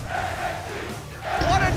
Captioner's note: fans chanting